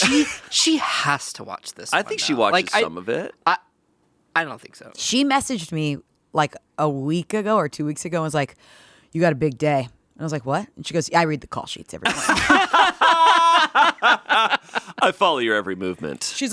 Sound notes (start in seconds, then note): 12.0 all laughing